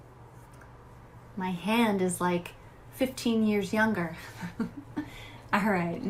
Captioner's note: laughs